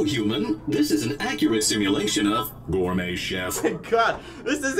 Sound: deep voice

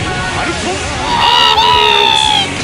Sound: infernal Screeching

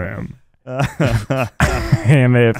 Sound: laughing

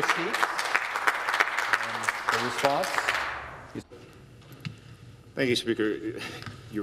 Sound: some Applause

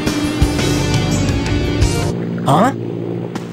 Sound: plane whirring

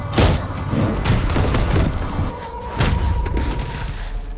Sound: dramatic music; butcher thuds

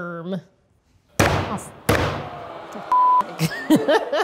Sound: hammer banging; laughs

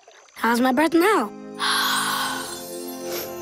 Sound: sighing

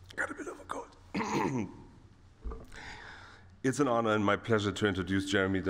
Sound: clears throat

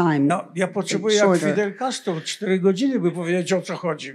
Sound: foreign language

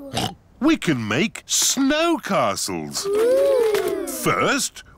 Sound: oinks

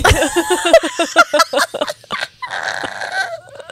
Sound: panel laughing

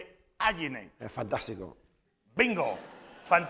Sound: spanish

